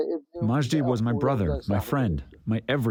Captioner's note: through translator